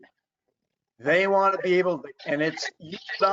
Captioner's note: distorted audio